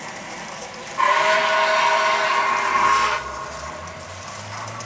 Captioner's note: whistle